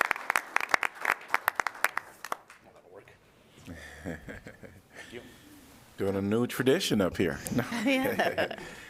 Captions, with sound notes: [LAUGHTER] You doing a new tradition up here. I am.